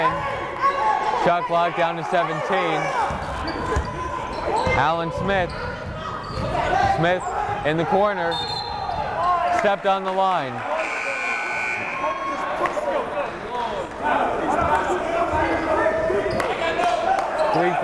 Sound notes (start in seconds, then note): 8.9 whistle blowing; 10.8 buzzer blaring; 15.3 yelling